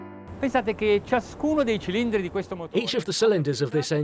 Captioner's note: speaking in foreign language